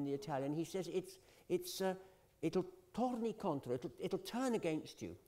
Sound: italian

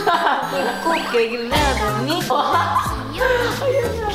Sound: laugh

